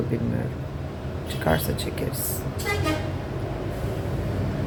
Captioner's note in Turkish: Korna sesi